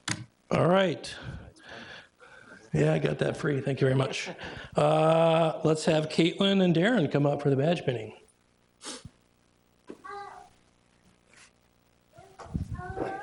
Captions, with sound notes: All right, yeah, I got that free, thank you very much. Let's have Caitlin and Darren come up for the Badge Pinning. (child brabbles)